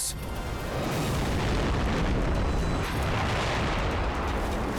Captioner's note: explosion booming